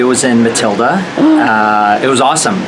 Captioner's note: Leslie gasps